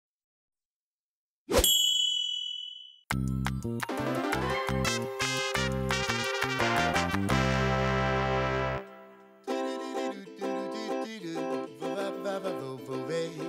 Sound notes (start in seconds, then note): 1.6 bell ringing; 3.1 upbeat music; 9.4 upbeat scat singing